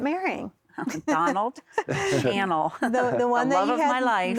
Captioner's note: giggling